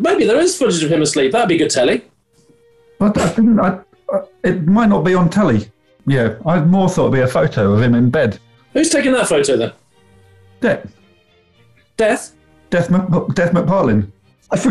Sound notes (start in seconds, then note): 3.1 chuckles